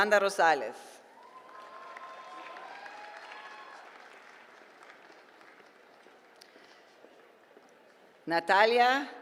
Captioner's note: applause